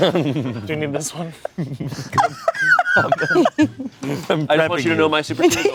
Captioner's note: everyone laughs